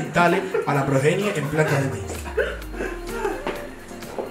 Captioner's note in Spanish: risas